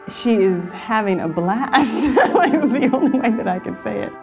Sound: laughs

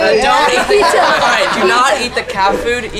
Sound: team laughing

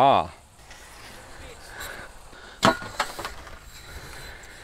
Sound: clanking scrubs

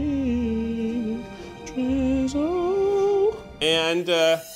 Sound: humming

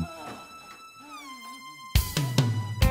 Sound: moaning

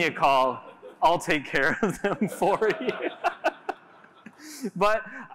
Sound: laughter

